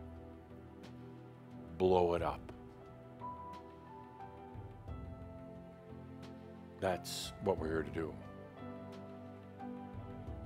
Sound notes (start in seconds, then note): none